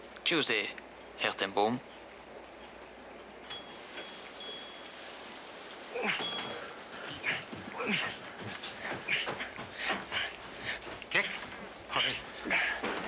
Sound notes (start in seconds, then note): 6.0 bell tinkles; 8.4 grunting